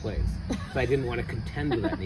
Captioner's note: laughs